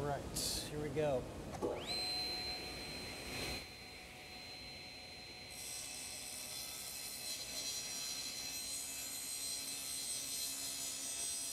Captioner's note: sawing